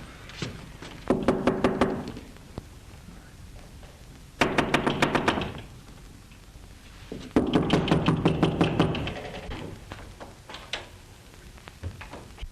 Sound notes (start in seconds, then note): 1.1 knocking at door